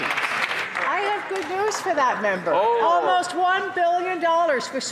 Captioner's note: some Applause